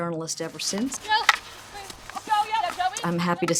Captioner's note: sound of field hockey game in progress